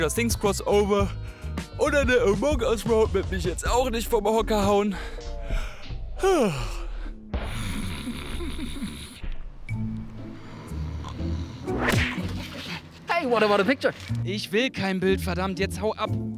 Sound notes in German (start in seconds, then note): 6.1 Gähnen; 7.4 Schnarchen